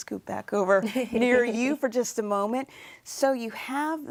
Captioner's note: laughs